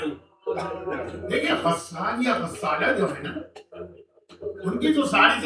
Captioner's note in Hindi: गला साफ़ करने की आवाज़